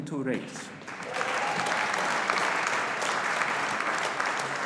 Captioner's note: audience applauding